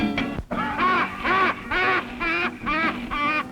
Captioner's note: loud laughter